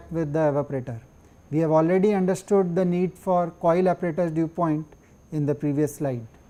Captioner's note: air conditioning